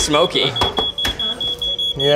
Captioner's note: beeping